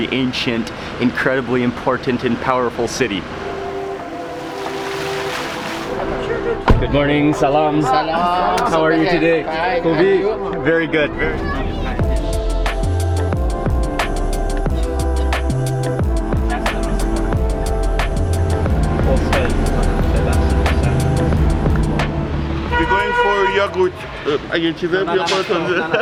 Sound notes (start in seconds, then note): 3.7 water fountain splashing; 7.3 speaking in foreign language; 9.7 speaks in foreign language; 12.4 upbeat music; 24.1 speaks in foreign language; 25.8 laughing